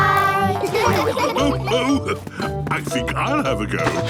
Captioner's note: laughs